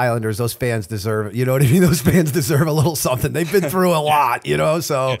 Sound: chuckle

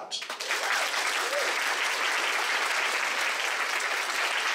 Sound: audience applauds

